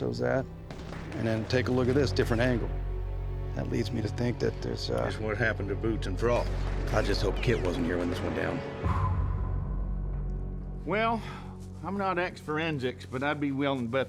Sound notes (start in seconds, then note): 0.6 flashback, gunshots fired; 8.7 blowing out